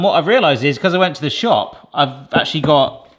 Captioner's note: none